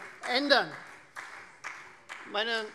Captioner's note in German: Beifall Freie Demokraten